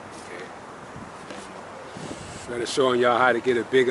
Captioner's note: speaking faintly